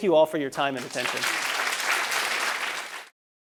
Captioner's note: applause